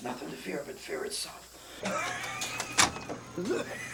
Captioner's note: gasping; coughing